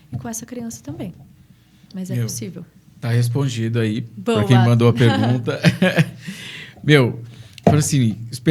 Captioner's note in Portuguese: risadas